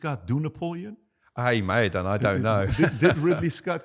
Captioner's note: laughing